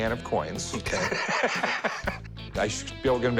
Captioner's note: laughs